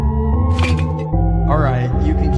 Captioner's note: clink